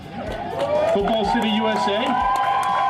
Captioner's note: crowd cheering